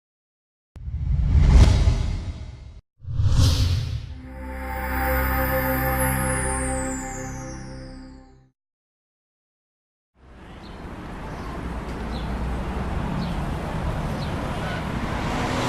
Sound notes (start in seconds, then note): 0.8 swoosh; 4.1 glowing sound; 10.2 birds chirping and cars moving; 14.7 car moving across